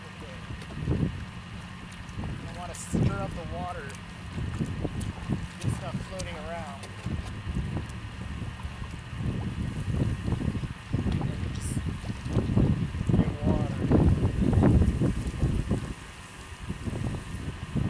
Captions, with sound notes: u wanna stir up the water get stuff floating arround *more wind noises*